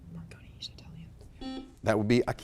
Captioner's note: buzzer blaring